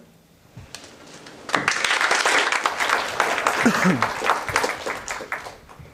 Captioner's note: applause